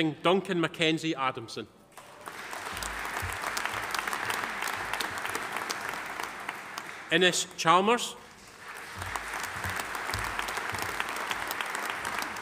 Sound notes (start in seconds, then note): 1.9 audience applauding